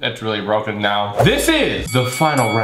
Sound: bell ringing three times

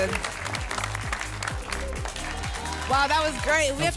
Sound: applause and cheering cont

